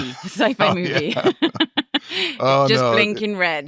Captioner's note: chuckling